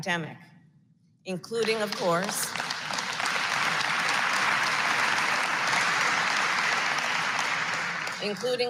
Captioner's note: applause